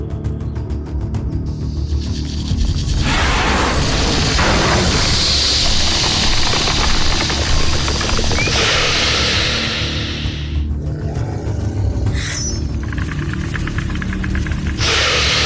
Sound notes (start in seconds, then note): 1.6 snake screeches; 3.0 snake growls; 12.1 blade chimes; 14.9 snake hisses; 14.9 snake rattles